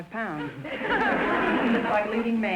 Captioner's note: audience laughter